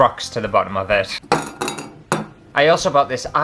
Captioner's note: rocks Tapping Glass